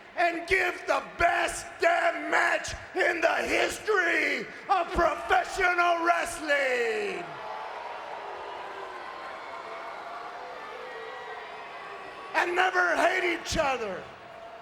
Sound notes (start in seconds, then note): 7.7 crowd cheering